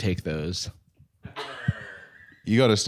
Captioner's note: laughs